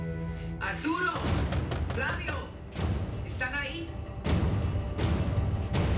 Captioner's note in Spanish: toques en la puerta